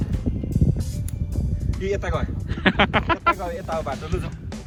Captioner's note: laughter